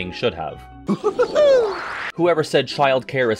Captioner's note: Tigger laughing noises